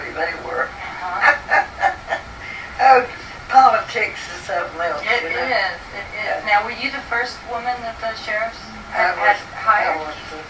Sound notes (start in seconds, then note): 0.3 laughs